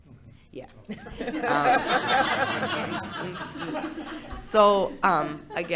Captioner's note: board laughing